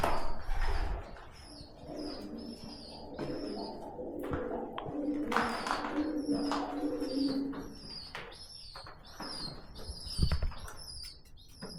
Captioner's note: sound of pigeons